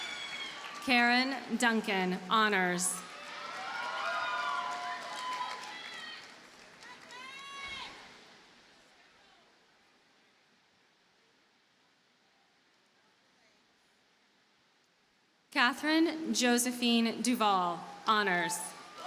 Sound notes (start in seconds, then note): 3.0 audience cheers and applauds